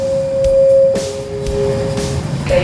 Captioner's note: announcer machine beeping